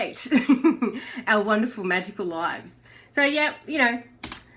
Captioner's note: giggles